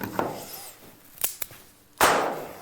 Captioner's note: click; gunshot